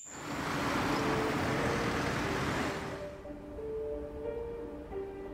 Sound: traffic humming

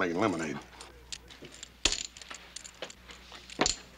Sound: noises from cardgame

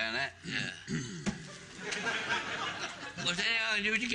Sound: audience laughing

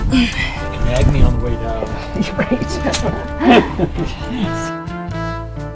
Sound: laughter

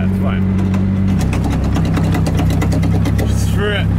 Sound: metal clanking

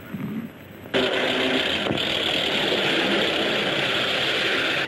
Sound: tank whirring

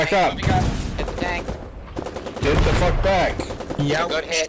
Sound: sounds of war

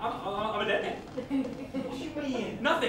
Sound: laughter

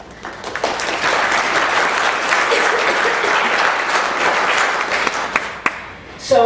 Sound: applause

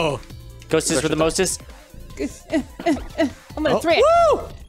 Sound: grunts

